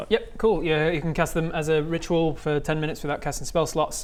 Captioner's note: none